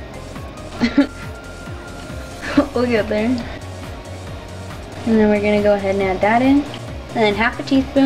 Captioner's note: laugh